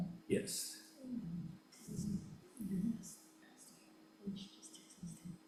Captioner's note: both whispering